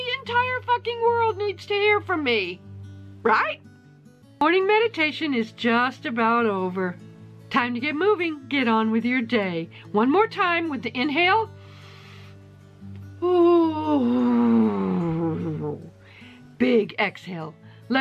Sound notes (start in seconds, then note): 11.6 inhales; 13.8 ooooooooo while exhaling